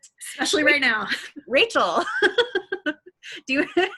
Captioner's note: laughs